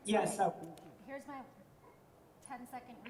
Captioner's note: audio cuts out